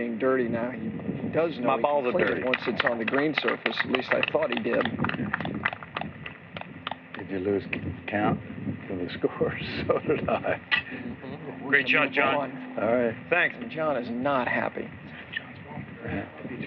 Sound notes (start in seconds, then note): 6.5 applause; 9.7 laughing